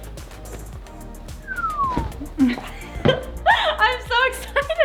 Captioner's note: whistle drop effect